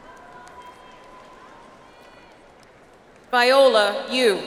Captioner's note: audience applauds